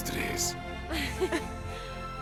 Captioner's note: Las tres ríen